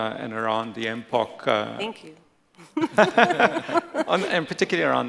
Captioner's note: laughs